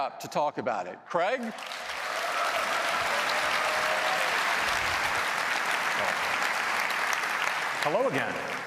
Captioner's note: applause